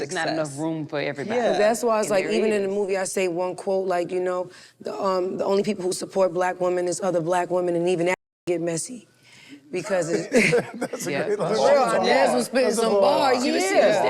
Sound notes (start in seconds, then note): 10.2 group chuckles